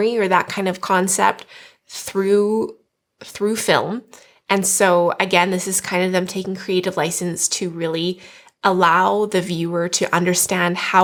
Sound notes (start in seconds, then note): none